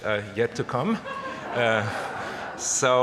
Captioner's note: laughter